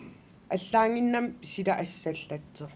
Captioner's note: non-english speech